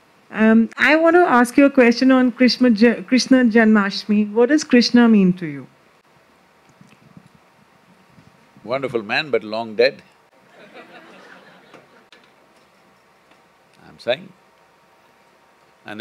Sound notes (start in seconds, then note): 10.4 laughter